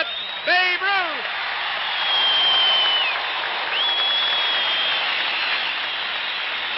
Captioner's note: crowd cheers